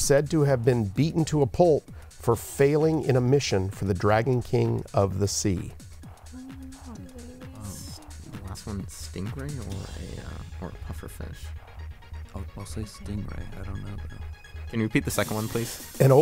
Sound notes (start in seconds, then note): 7.8 whispering